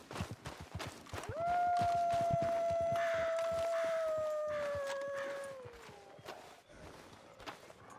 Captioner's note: A wolf is howling in the distance. More appear and start growling